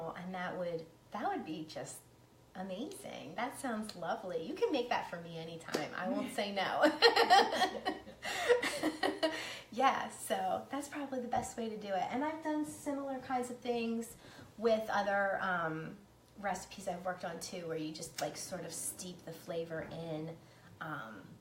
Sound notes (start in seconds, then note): 6.8 laughs